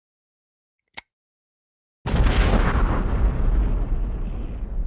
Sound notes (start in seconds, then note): 0.8 click; 2.0 explosion